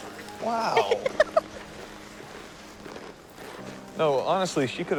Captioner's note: Cassie laughs